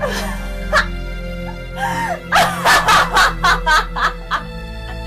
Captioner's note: Kate laughing and crying